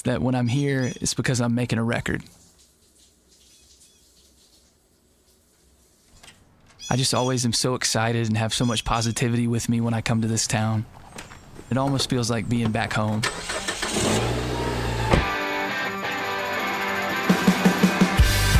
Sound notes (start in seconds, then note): 2.3 water splashing; 13.2 engine starting; 15.1 upbeat rock music